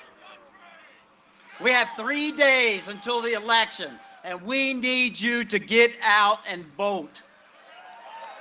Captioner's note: cheering and applause